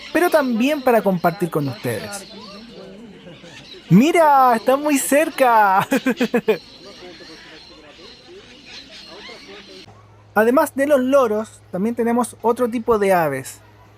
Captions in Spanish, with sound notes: pero también para compartir con ustedes ¡mira, están muy cerca! (risas) además de los loros, también tenemos otro tipo de aves